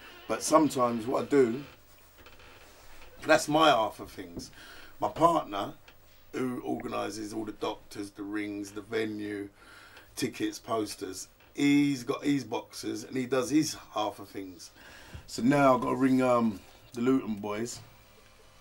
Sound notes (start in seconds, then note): none